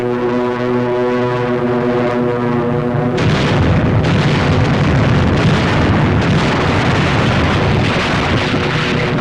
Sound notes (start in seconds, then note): 3.1 explosions